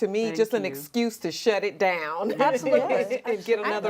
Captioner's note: laughs